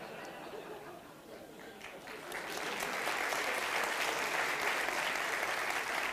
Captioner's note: audiences laugh